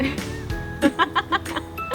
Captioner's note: laughter